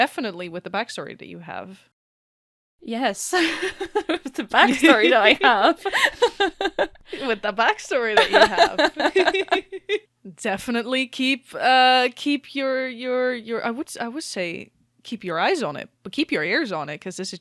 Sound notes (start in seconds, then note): 3.3 laughs; 8.1 laughter